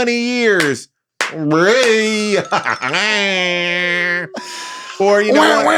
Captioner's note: claps and laughs; everybody laughs